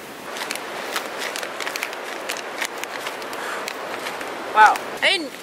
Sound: paper bag wafting

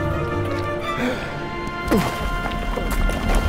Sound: gasp

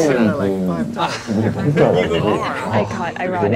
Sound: haha

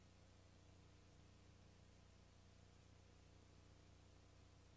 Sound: VHS static

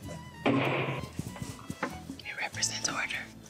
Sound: gavel knocking

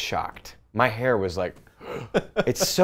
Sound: breathes in

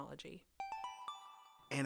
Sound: chime

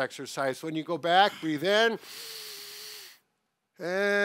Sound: inhales

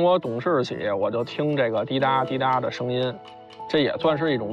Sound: I'm hearing the sound of clocks

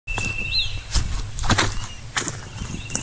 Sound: footsteps

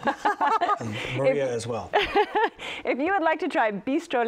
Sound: laughs

